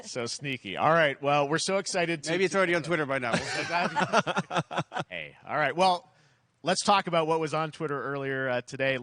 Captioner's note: laughter